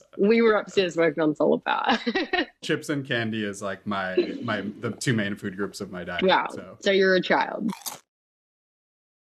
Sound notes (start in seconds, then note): 1.9 laughter; 7.7 crunch